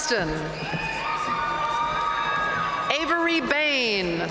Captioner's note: audience cheering and applauding